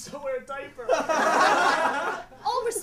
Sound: Everyone laughing at Draco

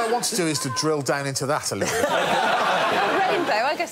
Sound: laughter

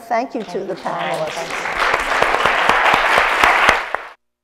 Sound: applause

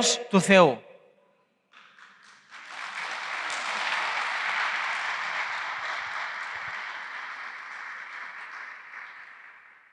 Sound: applause

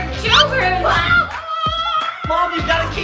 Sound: all yelling

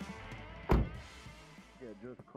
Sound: car door closing

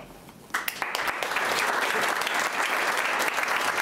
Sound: clapping

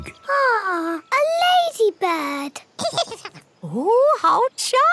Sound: giggles

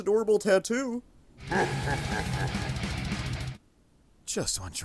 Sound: evil Laughter

